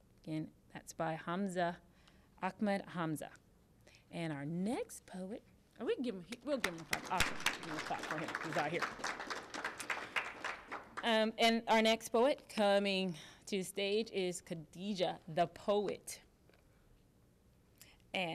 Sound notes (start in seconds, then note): 9.4 applause